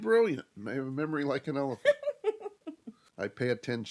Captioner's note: giggles